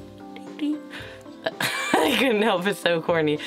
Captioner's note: laughs